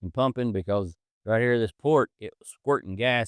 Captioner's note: none